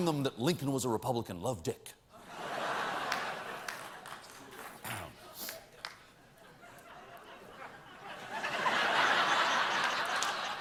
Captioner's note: laughter